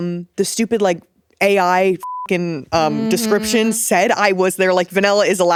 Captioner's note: beep